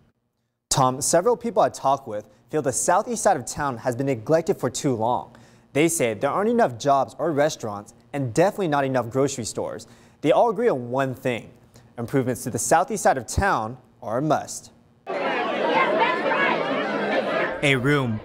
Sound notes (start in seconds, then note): 2.5 people talking during meeting